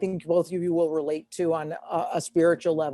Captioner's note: none